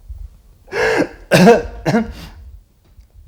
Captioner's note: coughing